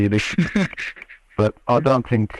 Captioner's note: both laugh